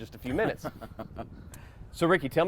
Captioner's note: chuckles